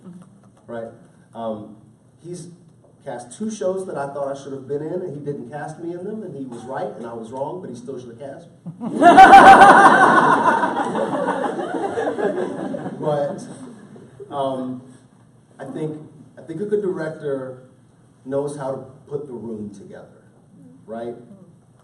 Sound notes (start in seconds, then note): 8.7 laughter